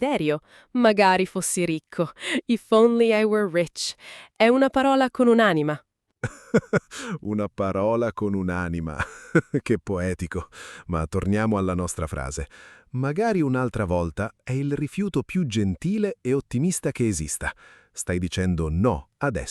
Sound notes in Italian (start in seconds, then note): 6.2 risate